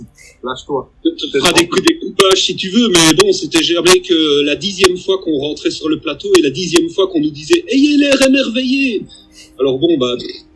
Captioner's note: laughs